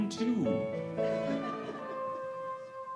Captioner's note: audience laughing; bright orchestral music